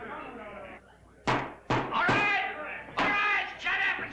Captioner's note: excited chatter; gavel thuds